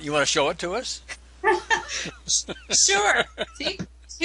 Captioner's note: laughing